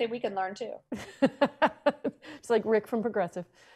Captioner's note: laughs